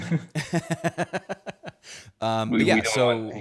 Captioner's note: laughter